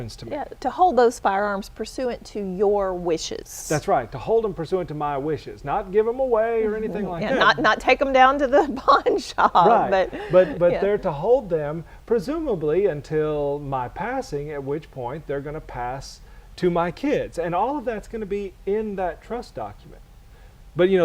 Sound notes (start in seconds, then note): 10.1 chuckle